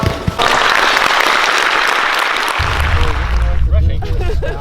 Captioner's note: crowd clapping